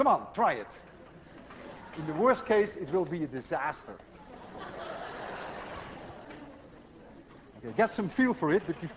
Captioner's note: class laughs